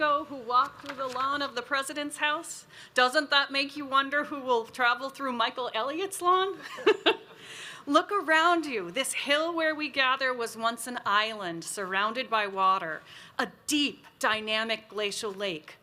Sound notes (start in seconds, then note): 7.0 laughs